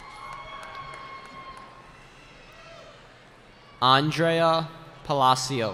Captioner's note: cheering